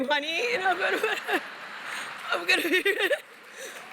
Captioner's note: applause